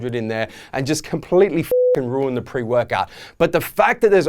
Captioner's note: beeping